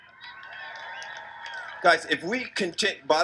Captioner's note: crowd cheers